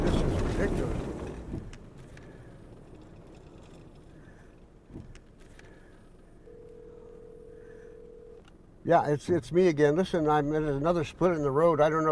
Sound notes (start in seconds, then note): 6.4 cell phone ringing